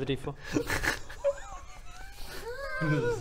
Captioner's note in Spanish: risa desquiciada